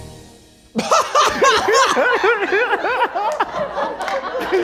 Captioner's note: everyone laughing